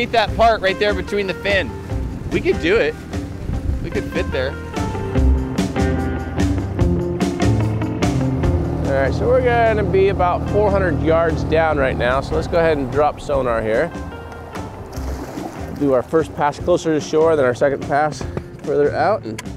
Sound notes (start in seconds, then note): 5.1 boat engine rumbling; 5.1 funky surf music